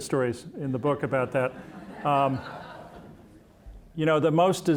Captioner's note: audience laughing